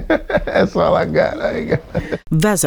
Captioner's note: laughs